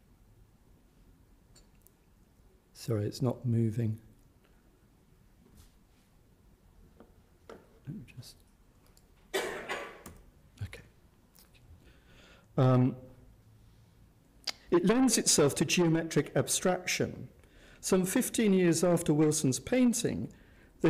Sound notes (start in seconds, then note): 7.2 tapping; 9.3 coughs